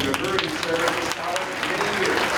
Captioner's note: audience applauding